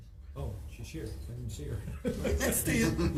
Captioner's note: giggles; laughs